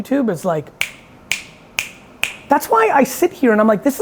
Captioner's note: snaps